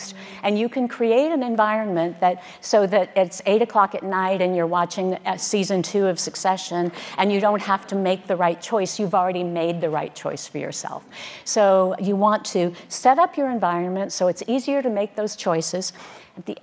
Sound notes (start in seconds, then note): none